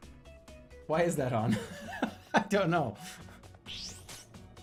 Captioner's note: laughs